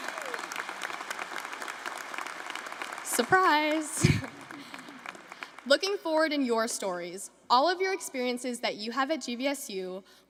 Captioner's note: applause